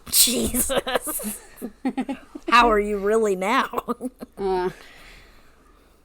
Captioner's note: laughs